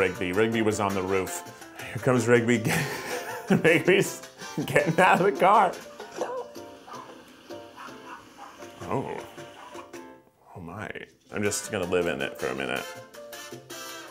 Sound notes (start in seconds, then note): 2.6 laughter; 6.8 woof